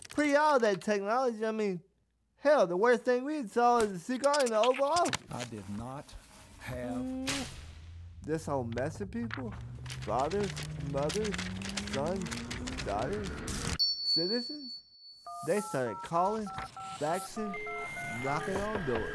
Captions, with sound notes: pre-all that technology. I mean, hell, the worst thing we saw is the cigar in the Oval Office. I did not have-- [KISSING] This whole mess of people-- [REVVING UP] Fathers, mothers, sons, daughters-- [BELL RINGS] Citizens. They started callin', faxin', knockin' on doors.